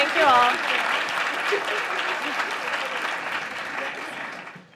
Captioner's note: applause